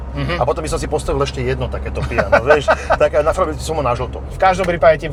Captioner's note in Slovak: smiech